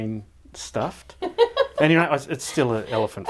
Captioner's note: laughing